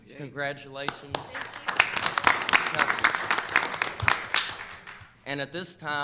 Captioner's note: people clapping